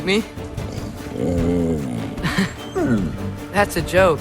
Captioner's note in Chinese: 咆哮聲